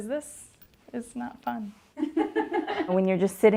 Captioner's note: laughter in the background